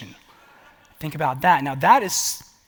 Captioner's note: laughter